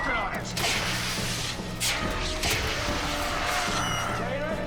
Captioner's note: gas hissing